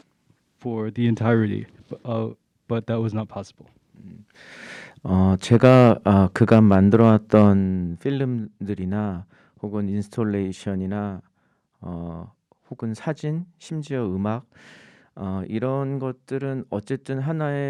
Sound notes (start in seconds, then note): 5.5 speaking in Korean